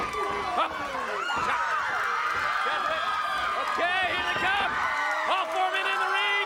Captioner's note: applause